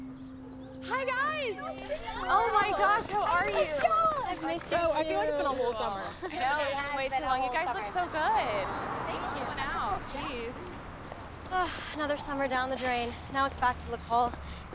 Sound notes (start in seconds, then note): 11.4 sighs